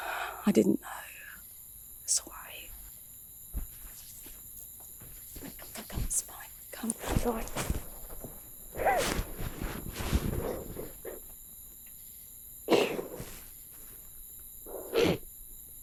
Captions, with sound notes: I didn't know, so I. Come, it's fine, come. (Max crying)